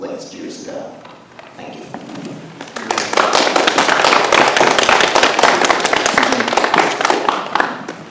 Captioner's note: audience applauds